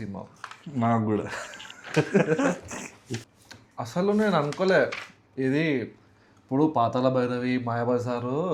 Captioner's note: laughs